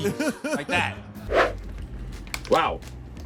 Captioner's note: Mero laughs; air whooshes